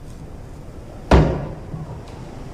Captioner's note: knock